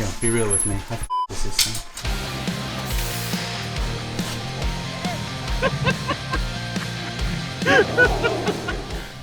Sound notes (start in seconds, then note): 0.1 high pitched squeaking; 1.0 beep; 1.8 rock music continues; 2.3 water spraying; 4.5 both laughing